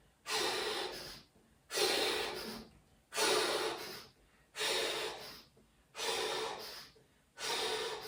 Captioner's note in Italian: sbuffare